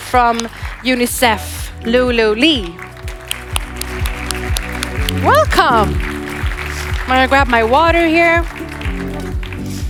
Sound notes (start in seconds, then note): 7.7 applause